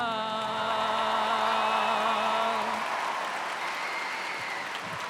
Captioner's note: cheers and applause